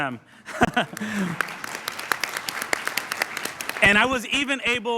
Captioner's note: applause